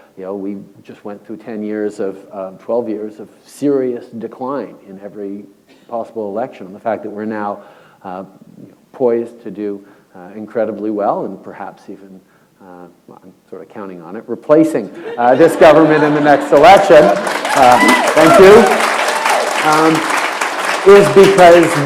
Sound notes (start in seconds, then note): 18.0 applause